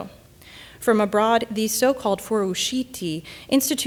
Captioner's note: speaking in Italian